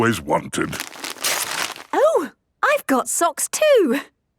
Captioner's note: tearing